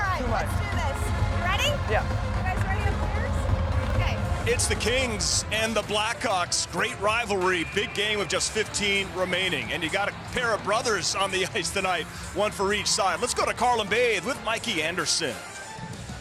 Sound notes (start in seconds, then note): 7.2 dramatic music; 7.2 whistle blowing; 16.0 upbeat music